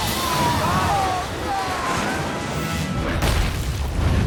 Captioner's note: boat crashes; logo slams